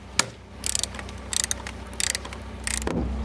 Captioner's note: rattling